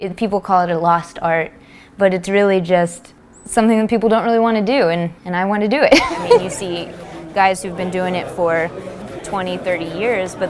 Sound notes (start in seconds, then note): 5.9 laughing